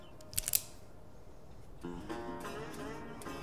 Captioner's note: pistol clicks